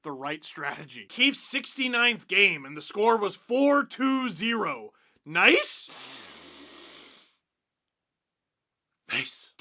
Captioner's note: deep breath